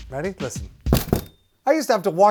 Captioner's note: clunk